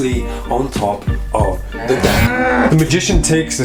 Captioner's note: cow moos